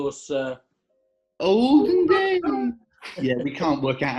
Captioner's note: high pitched